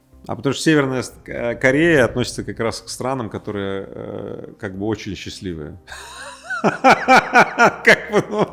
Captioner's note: laughs